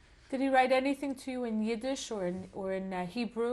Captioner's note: none